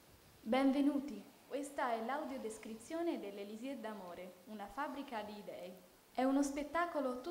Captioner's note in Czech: audio v italištině